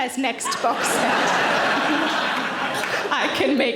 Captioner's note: audience laughing